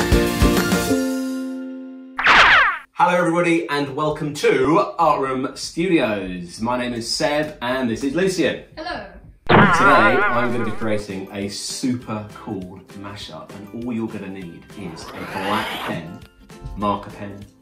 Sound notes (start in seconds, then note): 2.2 laser beam; 9.5 boing